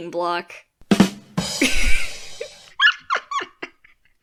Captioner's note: ba dum tshhh; some kind of laughing